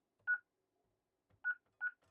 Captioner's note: beeping